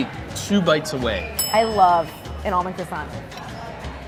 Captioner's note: bell dinging